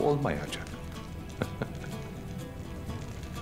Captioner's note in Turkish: Gülme sesi